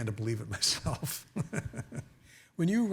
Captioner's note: chuckling